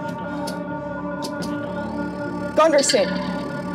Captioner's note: alarm ringing